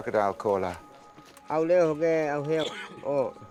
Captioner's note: speaking Indonesian